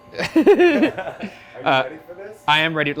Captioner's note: laugh